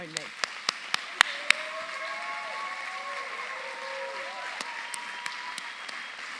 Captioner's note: audience cheering and applauding